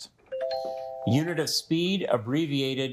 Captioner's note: buzzer chimes